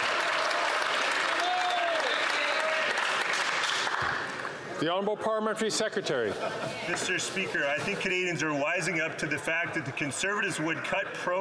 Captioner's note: some Applause